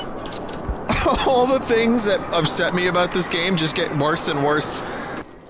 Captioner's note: laughing